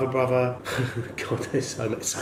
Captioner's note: laughs